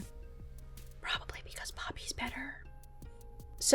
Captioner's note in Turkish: Fısıldar